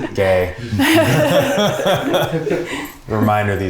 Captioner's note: everyone laughs